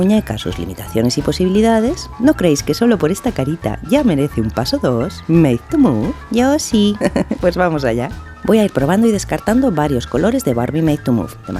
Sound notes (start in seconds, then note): 6.9 laugh